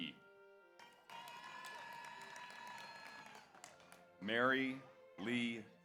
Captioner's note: audience applauds; audience cheers